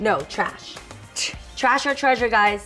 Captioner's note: tsks